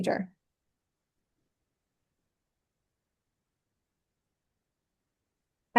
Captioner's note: silence